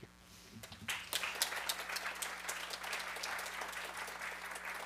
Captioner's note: audience applauding